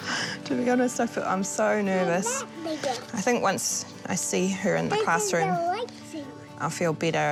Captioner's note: chuckles